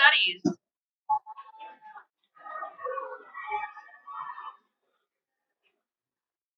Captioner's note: cheering